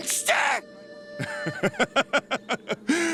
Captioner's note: laughing